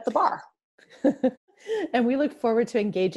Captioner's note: laughing